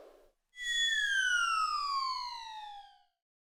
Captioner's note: sick Wile E. Coyote reference sfx